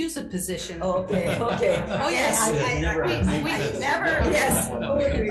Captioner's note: everyone laughing